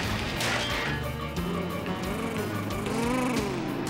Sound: car purring

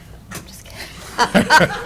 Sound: laughter

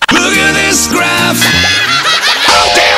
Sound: laughter

